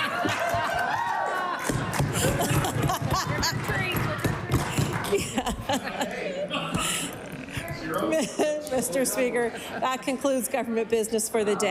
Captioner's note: laughter